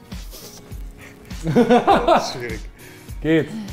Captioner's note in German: Lachen